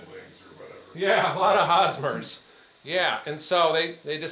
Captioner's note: chuckling